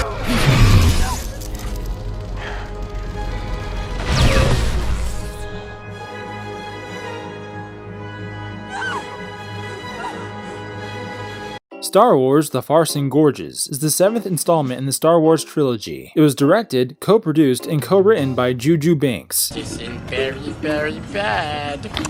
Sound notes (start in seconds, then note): 0.0 Lightsaber swinging sound; 1.2 Rey shouts in the distance; 1.4 Kylo Ren breathing loudly; 8.7 Rey screams in the distance